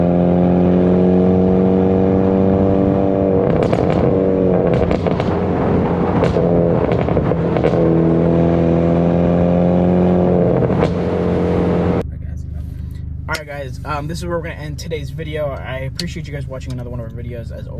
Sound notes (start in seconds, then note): 3.7 exhaust popping